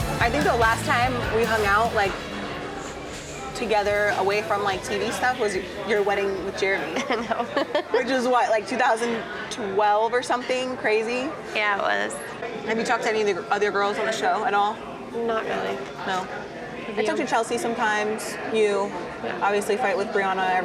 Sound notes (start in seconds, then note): 0.0 upbeat music; 6.9 laughs